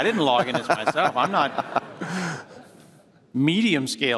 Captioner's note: laughter